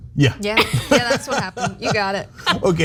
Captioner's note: laugh